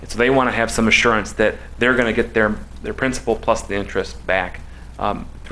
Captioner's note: none